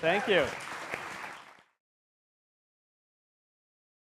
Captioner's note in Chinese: 掌聲